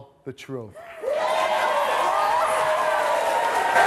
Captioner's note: audience applauding, cheering